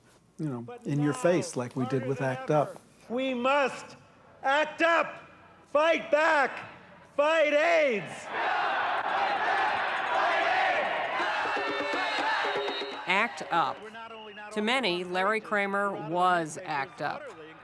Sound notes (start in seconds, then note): 7.3 crowd cheers; 11.1 bongo drums